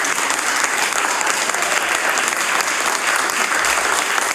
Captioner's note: applause